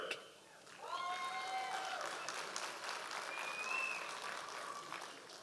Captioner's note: audience applause